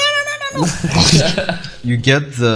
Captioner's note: laughing